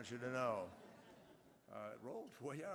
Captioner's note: laughter